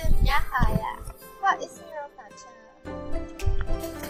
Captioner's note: in mandarin